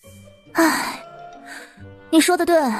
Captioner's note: sigh